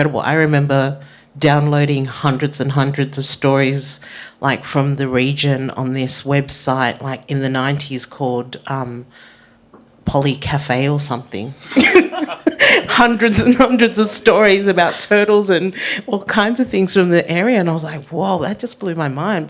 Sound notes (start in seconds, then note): 11.7 group chuckling